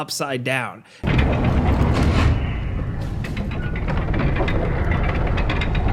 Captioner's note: gearshifts clanking